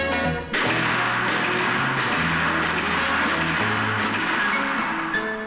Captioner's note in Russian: выстрел